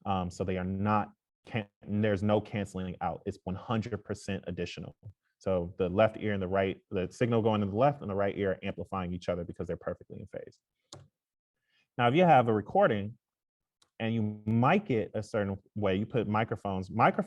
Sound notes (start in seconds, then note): none